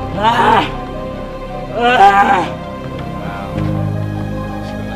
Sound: groaning and screaming

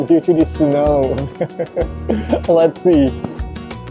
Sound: chuckles

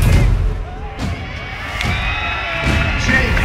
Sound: cheering

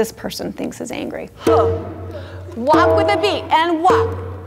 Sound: vocalizing drum beat

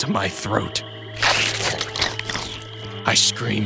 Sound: flesh sloshes

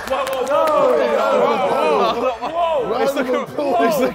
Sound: Sidemen yelling

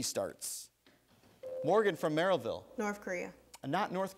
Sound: ding

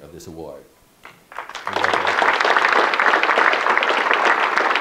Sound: audience clapping

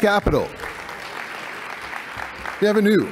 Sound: applause

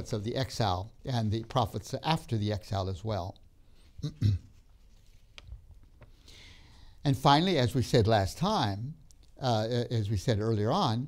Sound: clears throat

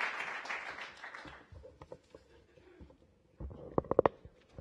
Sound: applause

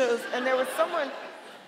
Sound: audience laughing

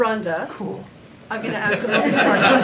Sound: laughter

